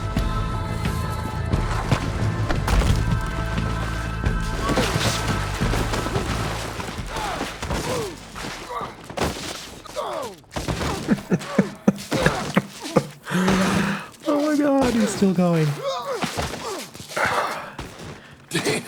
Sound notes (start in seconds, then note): 11.0 laughter